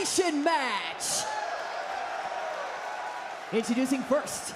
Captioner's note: crowd cheers